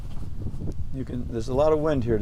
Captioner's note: wind blowing